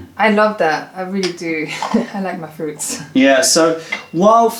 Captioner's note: laughter